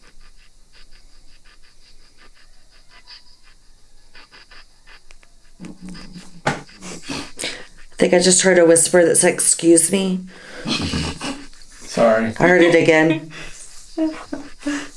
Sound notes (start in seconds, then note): 10.4 snickering; 10.6 stomach grumbles